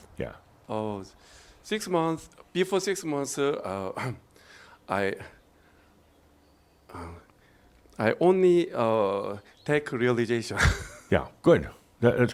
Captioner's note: he chuckles